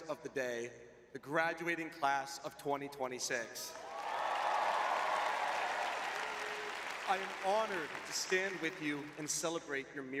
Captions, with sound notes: of the day, the graduating class of 2026. [audience cheering] [applause] I am honored to stand with you and celebrate your